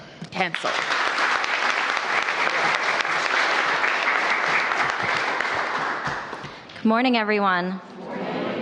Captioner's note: applause